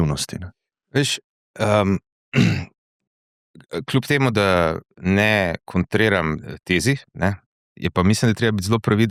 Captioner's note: coughing